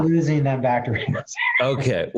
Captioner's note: laughs